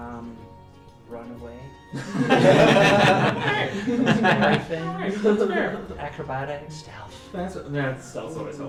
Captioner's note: ALL laugh